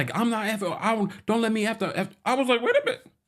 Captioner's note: angry stuttering